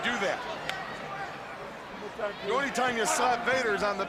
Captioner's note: crowd chatter